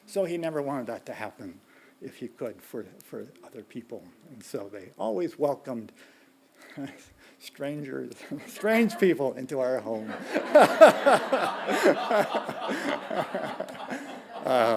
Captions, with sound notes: So he never wanted that to happen, if you could, for other people. And so they always welcomed strangers, strange people, into our home. (laughing) (audience laughing)